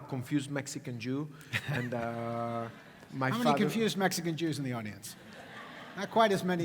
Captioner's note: laugh